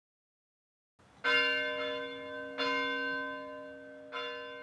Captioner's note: bell ringing